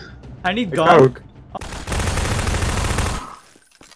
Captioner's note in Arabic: اطلاق النار